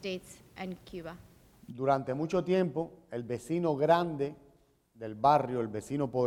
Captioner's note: speaking in Spanish